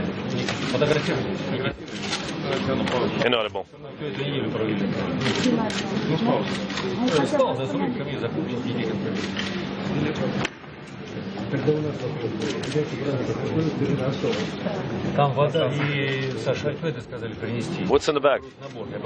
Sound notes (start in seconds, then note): 1.2 multiple voices speaking